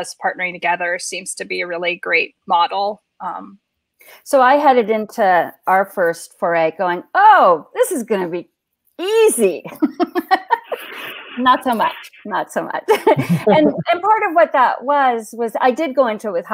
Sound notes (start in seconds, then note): 9.7 laughs